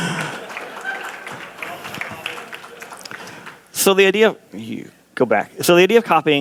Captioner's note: laughter